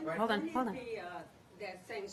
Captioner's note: off-mike